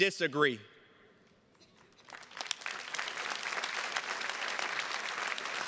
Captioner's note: attendees clapping